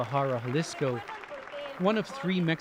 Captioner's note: speaking alternate language